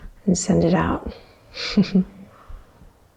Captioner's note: chuckles